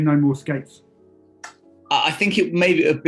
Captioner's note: blows kiss